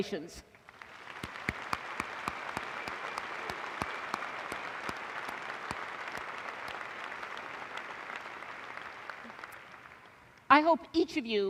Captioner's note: applause